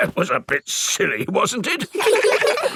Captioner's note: in teddy's voice; in normal voice; kids laugh